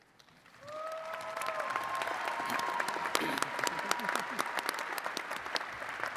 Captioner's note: attendees cheering and clapping